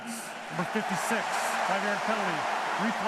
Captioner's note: cheering